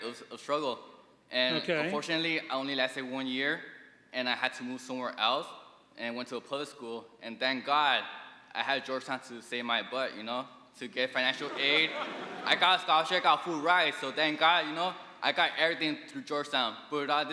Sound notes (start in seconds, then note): 11.2 audience laughing